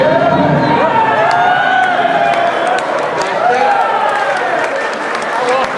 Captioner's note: crowd cheering; crowd shouting; crowd laughing